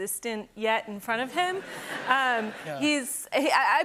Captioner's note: laughter